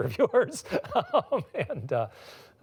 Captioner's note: laughs